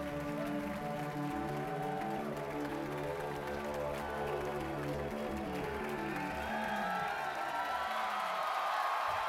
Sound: cheers and applause

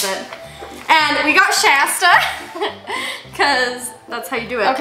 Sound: chuckles

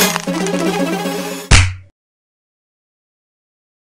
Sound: stunned silence

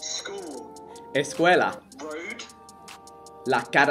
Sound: foreign language

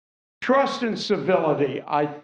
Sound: laughter

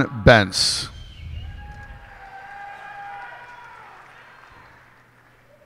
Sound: cheers and applause

